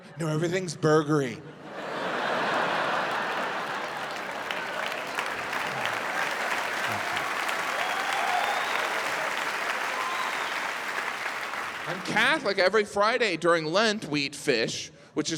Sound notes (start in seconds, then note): 1.9 audience laughs and applauds